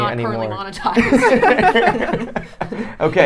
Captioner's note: laughing